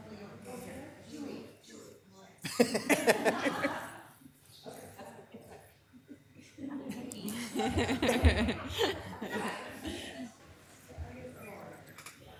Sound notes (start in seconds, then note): 2.5 laughing